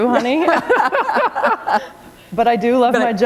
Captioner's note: laughter